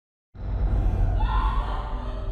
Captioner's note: screams and sobs